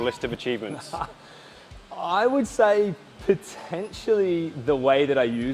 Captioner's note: laughs